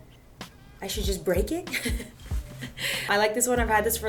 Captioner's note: chuckles